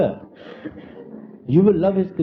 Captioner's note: laughter